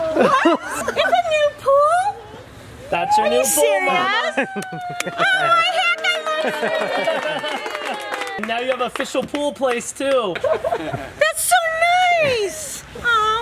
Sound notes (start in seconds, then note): 5.1 excited mumbling; 10.3 laughter